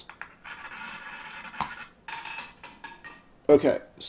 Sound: ball rolling

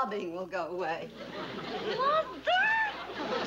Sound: shouts

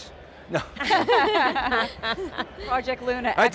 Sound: panel laughing

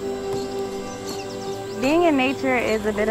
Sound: gentle music; birds chirping

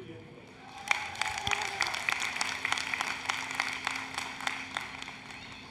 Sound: applause, Cheering

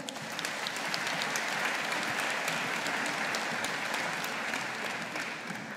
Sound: audience applauding

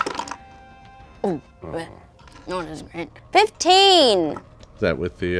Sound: murmurs

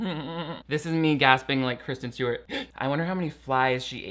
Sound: gasps

